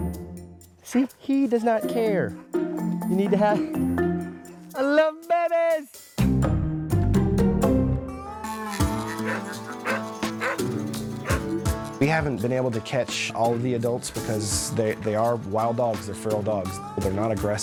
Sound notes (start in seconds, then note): 5.5 upbeat music; 9.0 dog barking